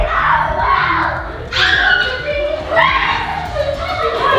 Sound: kids screaming

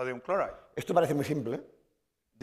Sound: speaking spanish

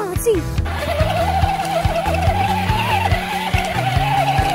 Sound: tires squealing

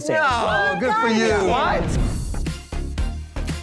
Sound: screen whooshes; upbeat music

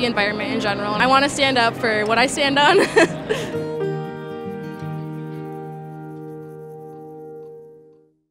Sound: laughs; soft music plays

